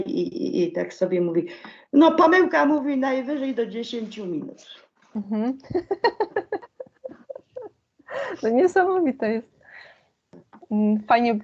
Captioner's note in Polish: śmiech